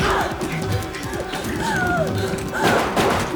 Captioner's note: grunts, gasps